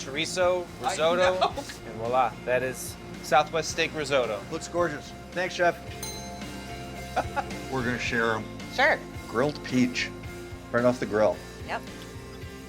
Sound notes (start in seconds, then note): 6.0 bell rings; 7.1 laughs